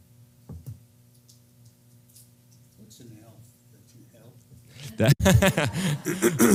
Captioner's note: laugh